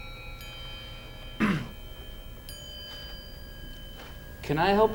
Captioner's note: Paul clears throat